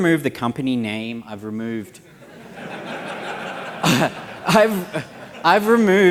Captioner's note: laughter